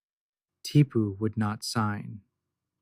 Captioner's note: quietly